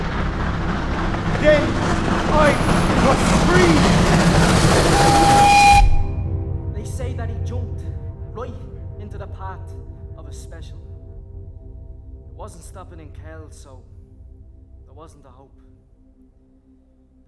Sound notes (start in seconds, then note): 0.2 train approaching; 5.1 train whistle